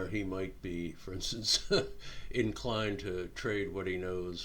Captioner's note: chuckling